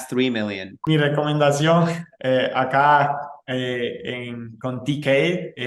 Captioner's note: speaking foreign language